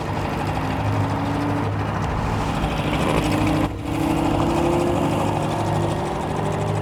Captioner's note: boat engine droning; tense music